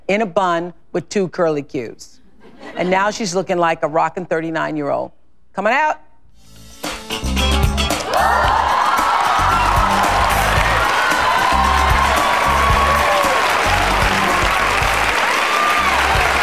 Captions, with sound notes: in a bun with two curly cues. And now she's looking like a rocking 39 year old. Come on out. (upbeat music) (audience cheers)